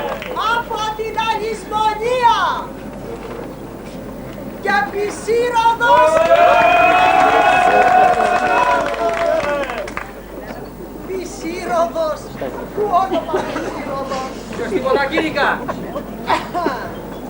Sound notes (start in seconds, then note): 0.0 ακούγονται επευφημίες; 4.6 κι άλλες επευφημίες